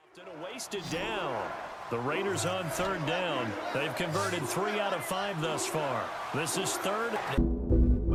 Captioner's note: crowd chanting